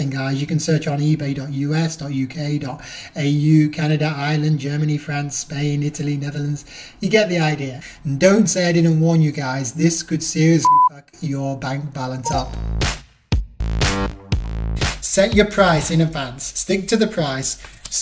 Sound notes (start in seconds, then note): 10.6 beeping; 12.2 electronic music